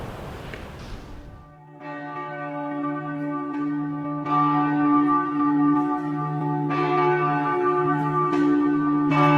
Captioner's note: Campana de la iglesia